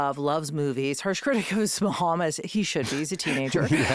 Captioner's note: laughing